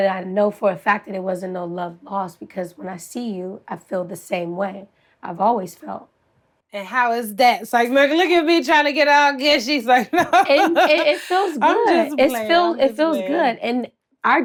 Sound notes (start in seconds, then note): 9.9 laughs